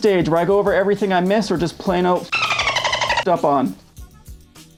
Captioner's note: dolphin noise